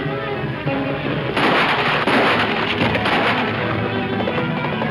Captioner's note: gun banging; dramatic orchestral music